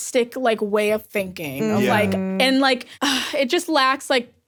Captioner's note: sighs